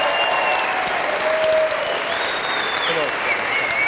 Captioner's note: applause